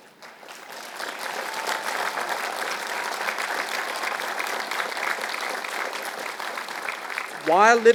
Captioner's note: applause